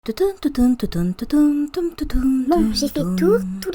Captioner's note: hums while drawing on the floor